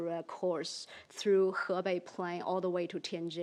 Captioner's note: speaks in foreign language